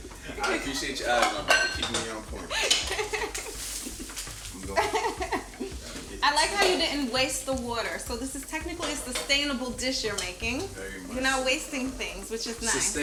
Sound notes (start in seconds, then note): 2.4 Angela chuckles